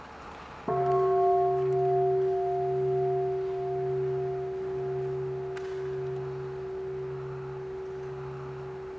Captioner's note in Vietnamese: chuông